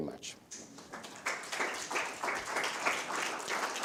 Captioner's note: applause